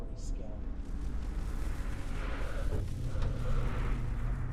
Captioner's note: haunting swishing